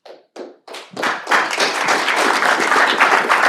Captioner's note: applause